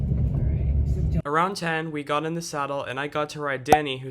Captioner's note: voiceover